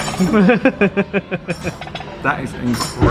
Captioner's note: laughs